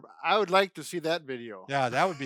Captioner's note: laughing